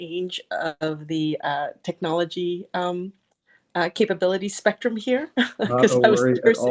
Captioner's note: chuckles